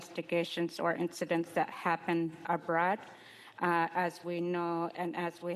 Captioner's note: speaking Indigenous Language